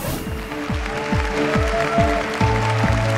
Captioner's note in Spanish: Aplausos